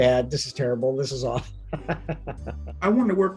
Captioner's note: laughs